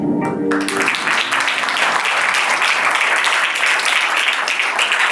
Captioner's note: applause